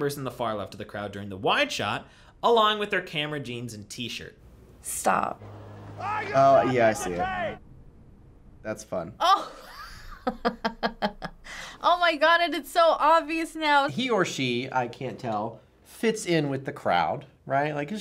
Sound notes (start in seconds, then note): 10.7 laughs